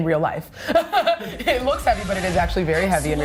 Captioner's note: laughs